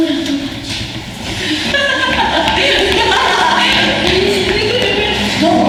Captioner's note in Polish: śmiech